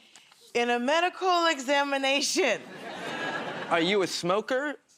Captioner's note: nervously